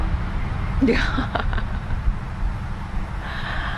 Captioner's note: laughing